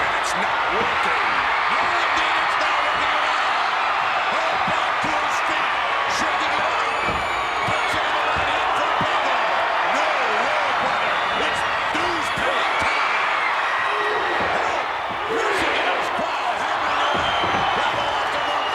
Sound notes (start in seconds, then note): 7.6 Vince and Jesse chattering; 13.5 Vince chattering; 13.5 crowd cheering